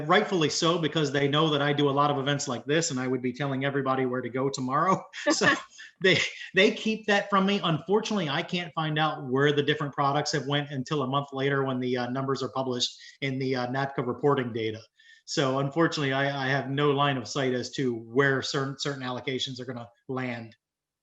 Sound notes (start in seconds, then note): 4.8 chuckling